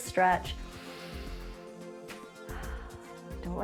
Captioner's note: inhales and exhales